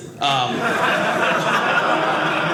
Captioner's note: audience laughing